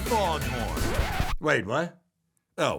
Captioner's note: record scratches